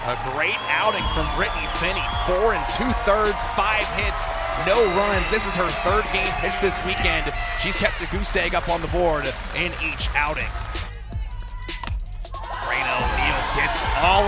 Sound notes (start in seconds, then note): 11.0 ball connecting with bat